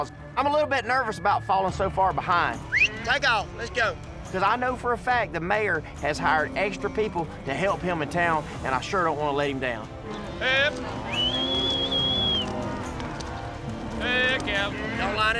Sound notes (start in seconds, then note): 2.5 whistles; 10.7 prompting cattle, whistling